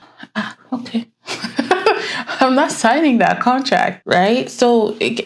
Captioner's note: laughs